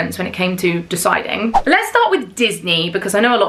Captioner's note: screen whooshes